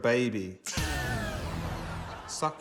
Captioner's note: both chuckle; music stops abruptly